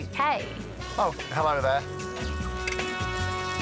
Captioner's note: british accent